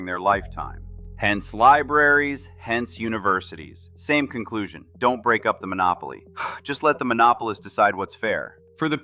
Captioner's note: exhales sharply